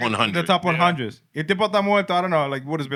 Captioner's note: speaking Spanish